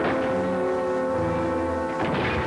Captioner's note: gunshot; thud; clatter